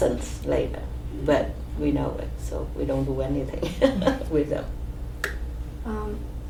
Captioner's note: laughs